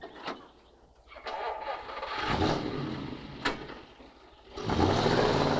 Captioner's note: car engine rumbling